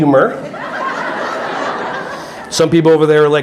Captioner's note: audience laughing